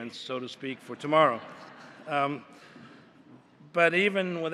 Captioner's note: laughter